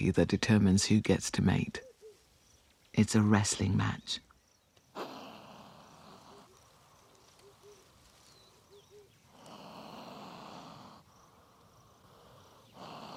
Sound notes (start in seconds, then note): 4.9 chameleon snorts; 9.3 snorting